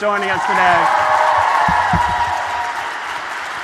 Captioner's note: applause